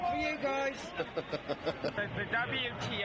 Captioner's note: chuckles